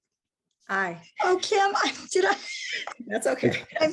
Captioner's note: chuckles